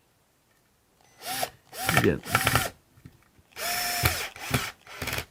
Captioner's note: screwdriver whirs